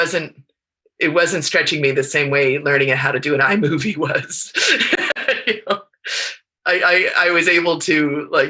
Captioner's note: laughs